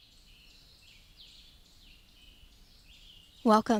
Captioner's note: birds chirping